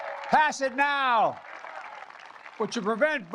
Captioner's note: applause